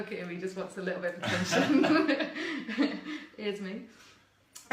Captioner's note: laughs